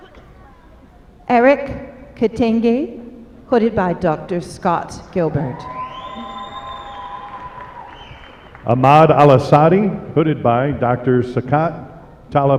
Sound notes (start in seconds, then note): 8.9 applause